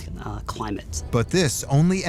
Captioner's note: eerie music; crickets chirping